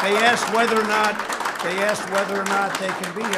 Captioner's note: applause